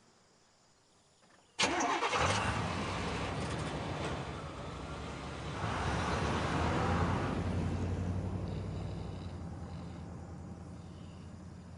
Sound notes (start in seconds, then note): 1.6 engine turns over; 9.7 snoring